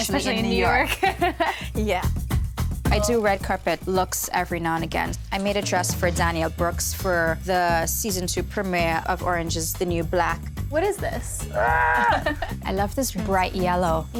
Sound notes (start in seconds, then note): 0.8 host Laughs; 11.6 both laugh